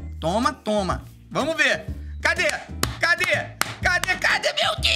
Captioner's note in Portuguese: batendo palmas